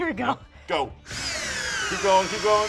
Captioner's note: drilling sound